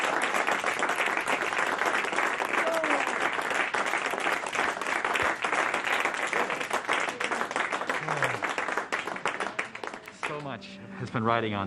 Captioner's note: applause